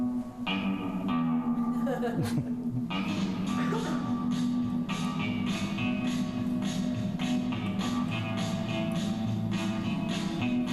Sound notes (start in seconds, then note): 1.6 laughing